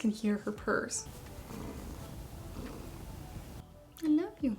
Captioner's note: Peach purring